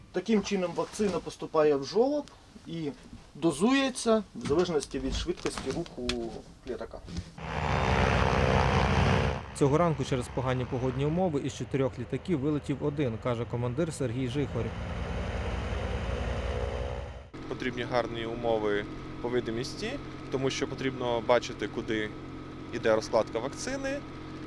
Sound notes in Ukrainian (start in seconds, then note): 7.4 працює двигун літака; 14.7 літак злітає